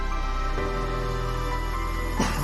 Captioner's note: coughs